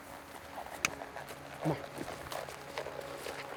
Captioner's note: clicks